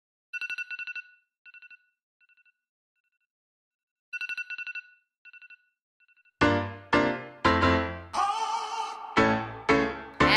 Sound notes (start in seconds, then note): 0.5 alarm rings